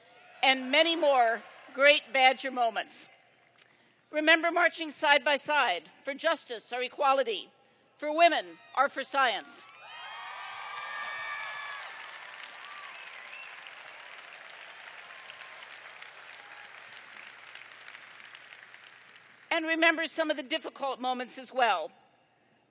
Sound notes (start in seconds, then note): 9.6 applause